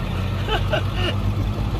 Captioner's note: laughter